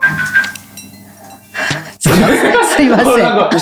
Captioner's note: Doraemon's ringtone